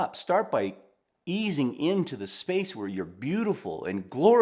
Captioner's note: none